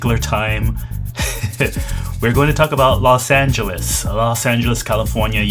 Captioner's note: laughs